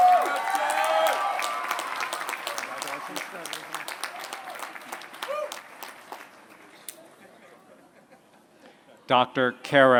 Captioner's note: applause